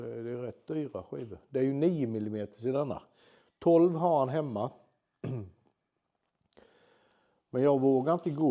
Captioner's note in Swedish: harklar sig